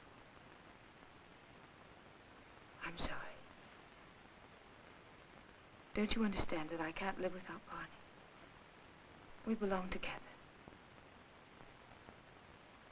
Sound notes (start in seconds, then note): none